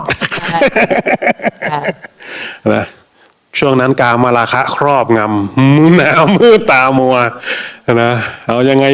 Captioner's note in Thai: เสียงหัวเราะ